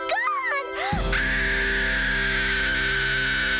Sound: screaming

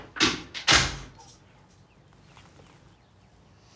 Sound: door closes

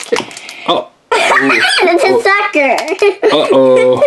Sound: laughing

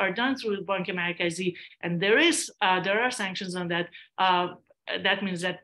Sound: non english speech

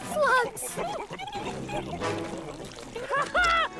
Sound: burbling continues

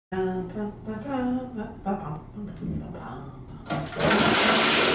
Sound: hums

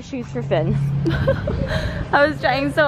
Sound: cries

